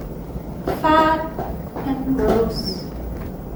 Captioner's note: none